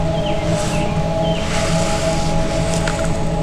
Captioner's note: exhales